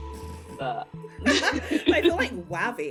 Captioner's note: laughing